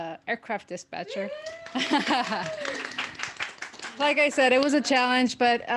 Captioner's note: applause